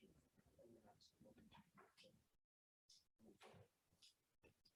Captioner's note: indistinct conversation